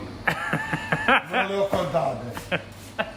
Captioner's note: speaking in foreign language; laughing; speaking in foreign language; chuckles